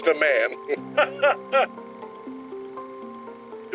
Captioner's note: laughs